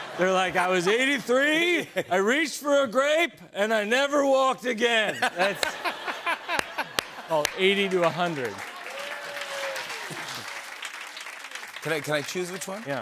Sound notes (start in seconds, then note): 9.3 applause